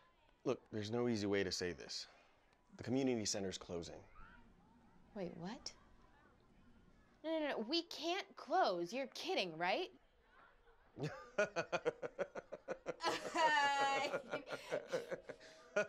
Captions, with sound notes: Look, there's no easy way to say this... The community center is closing. Wait, what? No no, we can't close! You're kidding, right? (laughs) (both laughing)